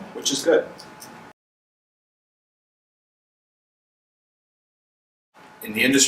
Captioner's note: silence